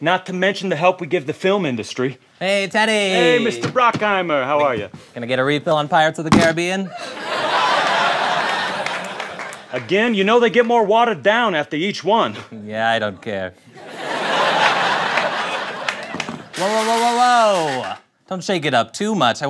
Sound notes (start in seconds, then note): 6.9 audience laughs; 13.7 laughter